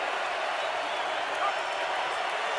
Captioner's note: crowd cheering